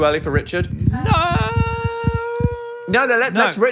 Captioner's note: Phil hesitating